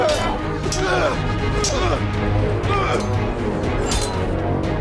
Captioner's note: both moaning; dramatic music